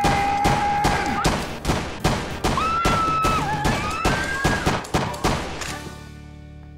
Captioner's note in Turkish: Silah sesleri